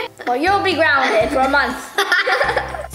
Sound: both laughing

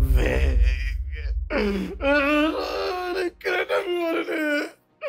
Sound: pained groaning

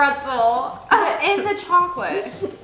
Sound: laughs

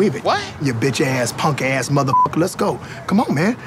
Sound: beep

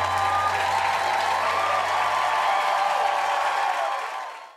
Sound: audience applause

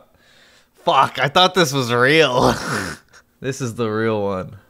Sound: chuckles

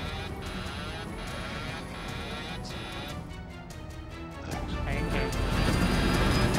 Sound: instruments beeping

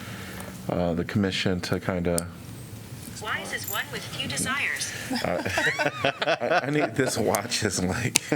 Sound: laughter

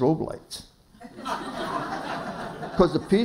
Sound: laughter

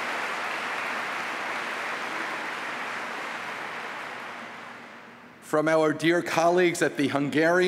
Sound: applause

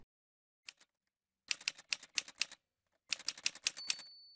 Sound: typewriter sounds

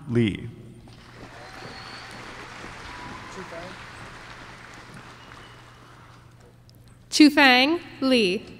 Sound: applause

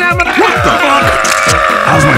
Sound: camera click

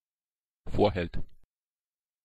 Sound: fast Pronunciation

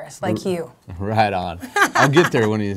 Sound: laughing

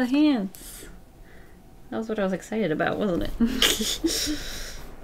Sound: laughs

